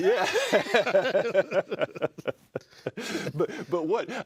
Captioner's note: laughter